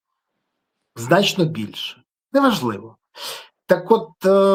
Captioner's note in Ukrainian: сопіння